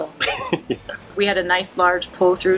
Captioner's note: laughs